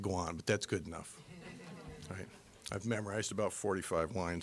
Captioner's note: audience laughing